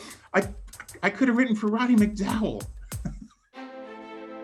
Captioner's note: laughs